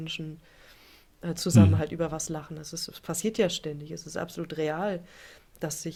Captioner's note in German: schnauben